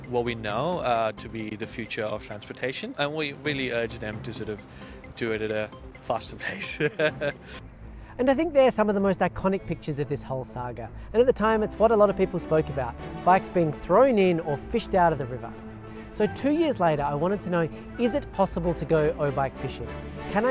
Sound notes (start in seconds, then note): 6.4 laughs